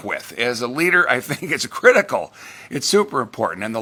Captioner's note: laughs